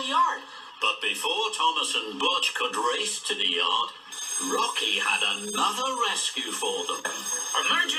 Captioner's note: alarm ringing